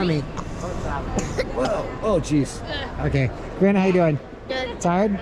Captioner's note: coughs